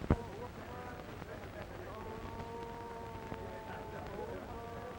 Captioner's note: people chattering